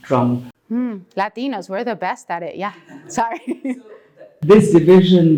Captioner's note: laugh